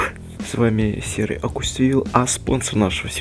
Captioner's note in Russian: вздох оо